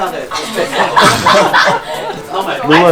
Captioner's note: hysterical laughter